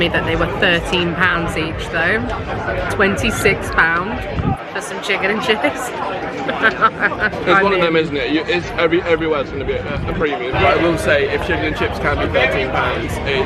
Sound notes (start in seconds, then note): 6.3 laughs